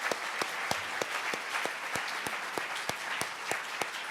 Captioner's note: handclaps